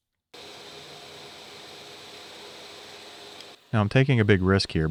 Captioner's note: machine whirring